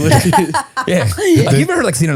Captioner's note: laughing